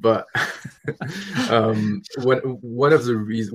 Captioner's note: laughing